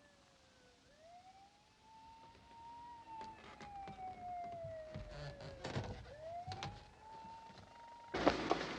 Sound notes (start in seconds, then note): 1.0 siren wailing in distance